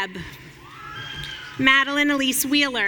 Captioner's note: audience cheering